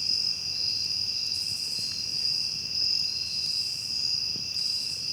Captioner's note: crickets continue chirping